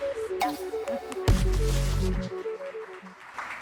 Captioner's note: applause